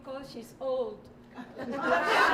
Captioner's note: laughter